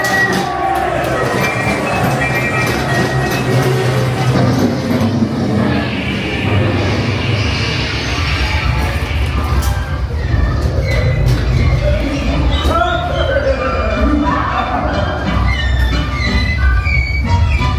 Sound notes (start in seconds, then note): 6.7 more exploding sounds